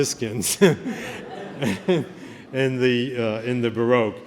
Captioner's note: laughter